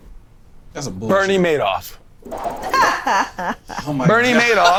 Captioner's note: laughing